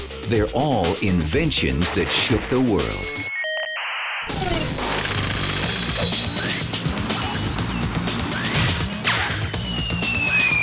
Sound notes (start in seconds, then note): 3.0 computer modem squawking; 4.7 uptempo techno music